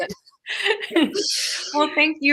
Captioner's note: all laughing